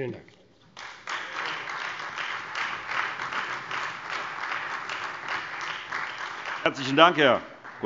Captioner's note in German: Beifall Freie Demokraten und vereinzelt AfD